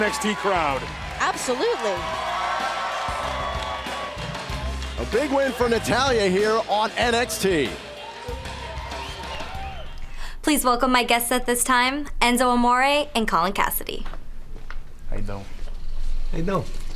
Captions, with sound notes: >> OH, GOOD TRIUMPH OVER EVIL. >> MAYBE IT'S SLIGHTLY DRAMATIC, BUT I'M HAPPY TO SEE NATALYA GET THE WIN HERE. >> AND SO AS IN THIS NXT CROWD. >> ABSOLUTELY. >> [CROWD CHEERING] >> A BIG WIN FOR NATALYA HERE ON NXT. >> PLEASE WELCOME MY GUEST AT THIS TIME, ENZO AMORE AND COLIN CASSADY.